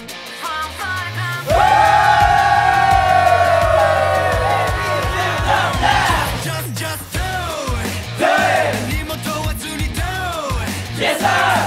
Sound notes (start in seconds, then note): 1.4 cheer